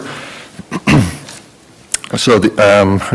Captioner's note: clears throat